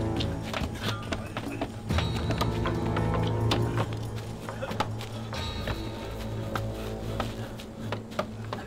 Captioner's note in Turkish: Kütük yontma sesleri